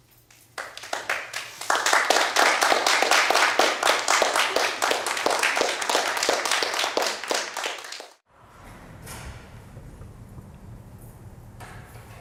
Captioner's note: applause